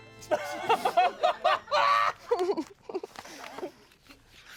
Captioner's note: everyone laughs